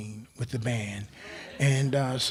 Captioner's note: crowd laughs